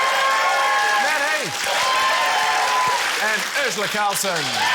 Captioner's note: cheering, applause